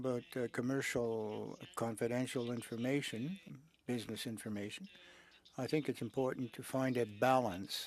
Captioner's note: speaking French